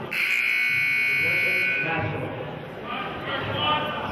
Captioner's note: buzzer honks; murmurs